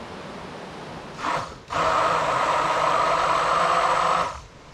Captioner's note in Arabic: اهتزاز الخلاط